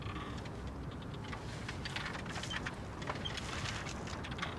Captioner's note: fence creaking